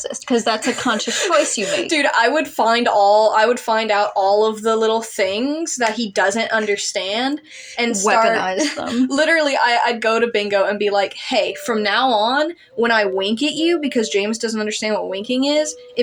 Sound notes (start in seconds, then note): 0.5 snicker; 7.6 quiet Laugh